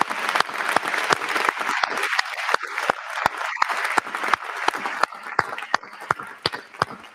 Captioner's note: applause